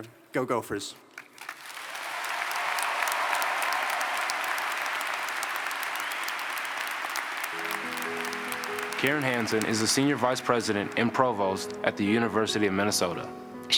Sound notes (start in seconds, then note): 4.8 applause